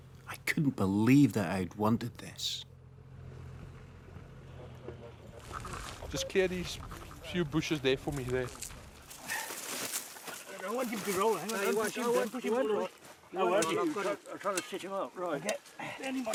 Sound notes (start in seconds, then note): 10.2 hunters chattering